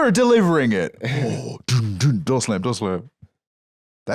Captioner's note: gasps